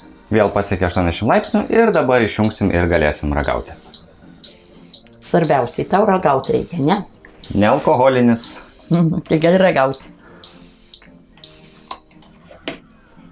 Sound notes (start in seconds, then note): 2.4 beeping in Lithuanian continues